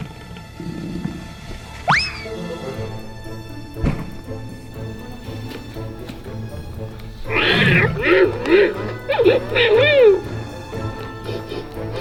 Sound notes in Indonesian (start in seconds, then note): 3.7 bruk!; 7.3 suara Harimau mainan